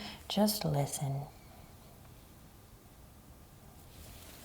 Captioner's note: breathes deeply